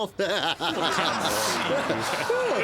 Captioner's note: all laughing